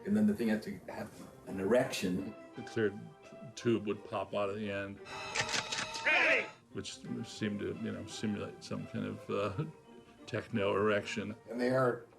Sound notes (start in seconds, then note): 5.5 clicking